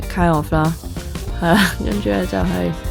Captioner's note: laughs